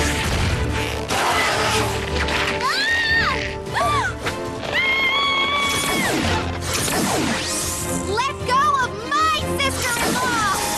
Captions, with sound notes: (crash) (roar) Aaahh! (scream) Let go of my sister-in-law!